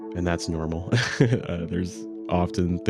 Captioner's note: laughs